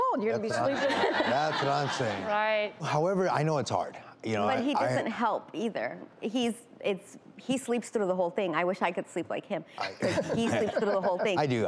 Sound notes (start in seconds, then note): 9.8 laughing